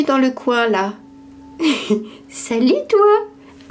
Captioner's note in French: rire